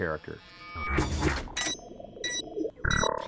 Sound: beeping

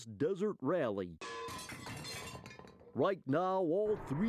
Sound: metallic clanging

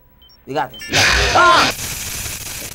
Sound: static screeching; abrupt shrieking

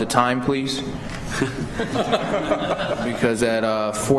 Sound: laughter

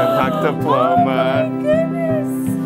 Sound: gasps

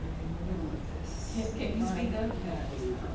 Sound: quiet chatter

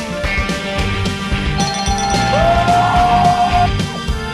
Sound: ding ding ding

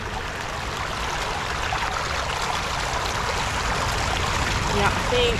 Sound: running water

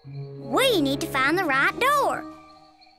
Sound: none

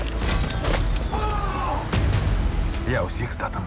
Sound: yelling

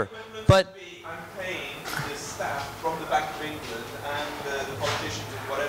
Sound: audience speaking

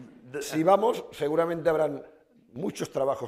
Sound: speaking spanish

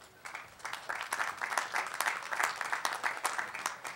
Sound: applause

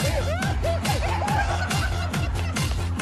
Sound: spits out again for the second time HAHAH

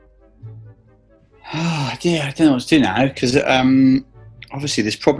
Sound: sighs

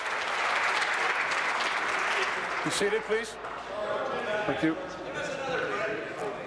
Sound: applause

